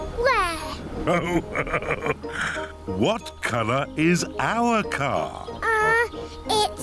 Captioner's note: laughs